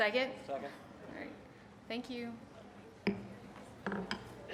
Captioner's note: gavel bangs